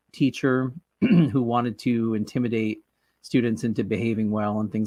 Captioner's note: clears throat